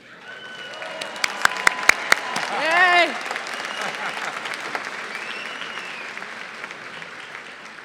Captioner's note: applause